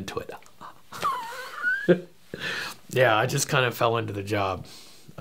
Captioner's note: ha, ha, ha! - laughing